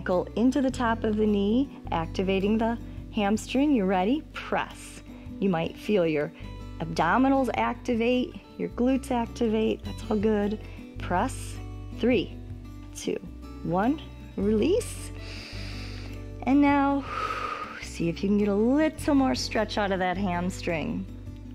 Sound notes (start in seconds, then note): 15.2 inhales